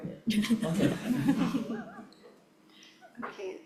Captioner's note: group laughing